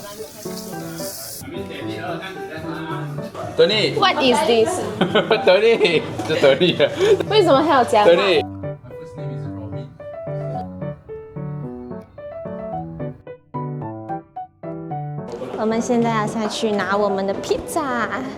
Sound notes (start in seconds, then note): 6.9 laughs